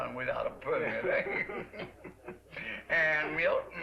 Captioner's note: both chuckle